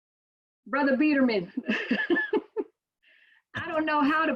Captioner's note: laughs